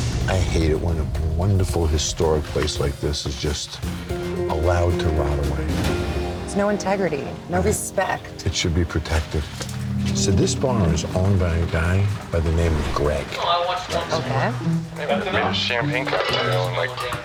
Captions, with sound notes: I hate it when a wonderful, historic place like this is just allowed to rot away. There's no integrity. No respect. It should be protected. So this bar is owned by a guy by the name of Greg. [BAR CHATTER]